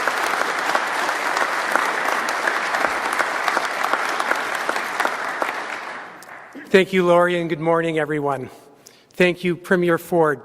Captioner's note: applause